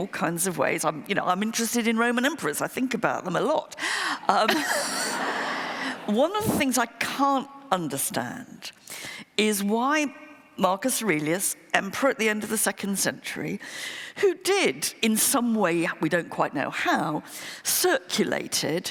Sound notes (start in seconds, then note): 4.2 laughter